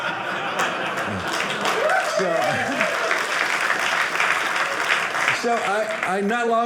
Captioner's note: audience applauding